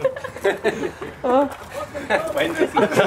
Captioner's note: shouting from inside